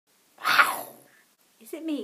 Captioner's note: growl